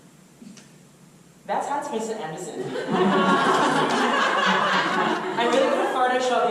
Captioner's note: audience laughter